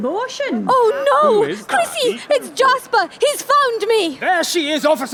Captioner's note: gasps